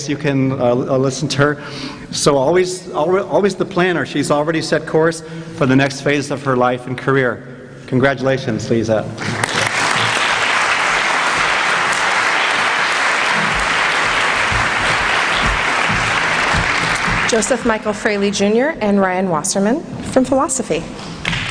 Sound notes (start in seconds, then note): 9.2 applause